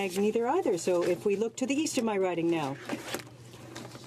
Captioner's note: speaking French